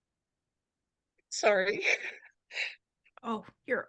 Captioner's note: laughs